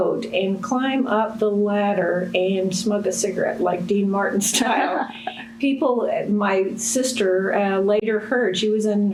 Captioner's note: laughter